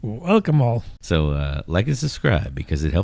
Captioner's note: uh